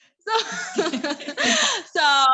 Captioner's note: laughing